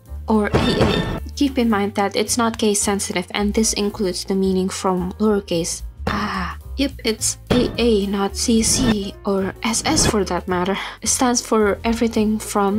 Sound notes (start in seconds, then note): 6.1 quietly